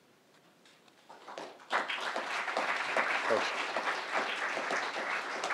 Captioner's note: crowd applauding